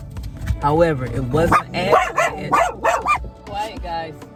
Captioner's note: barking